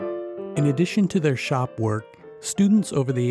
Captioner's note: voiceover